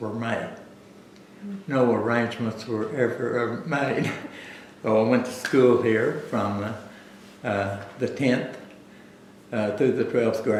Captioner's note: laughs